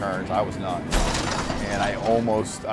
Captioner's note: crunching sounds